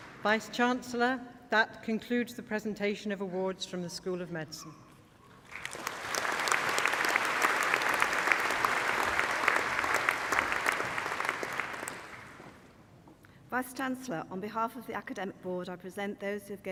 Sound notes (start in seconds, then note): 5.4 applause